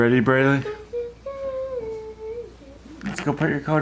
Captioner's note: humming